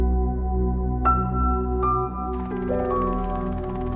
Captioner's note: helicopter fly's overhead